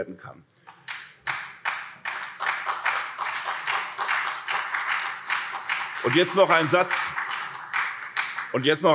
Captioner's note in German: Beifall SPD und CDU